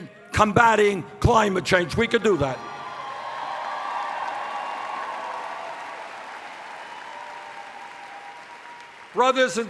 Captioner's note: cheers